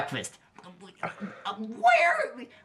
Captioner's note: bernard still stutters